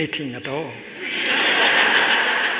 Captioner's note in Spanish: Risas